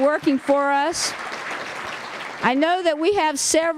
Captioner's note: applause